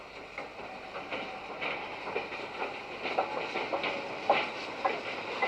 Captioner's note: train passes